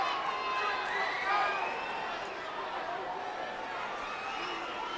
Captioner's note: audience cheers